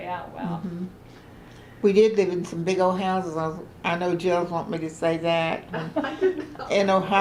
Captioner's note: laughter